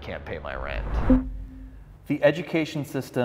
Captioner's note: electronic bloop